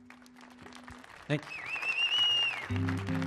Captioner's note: audience clapping